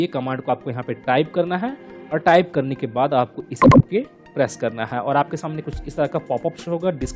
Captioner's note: click